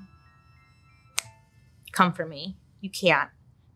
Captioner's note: snaps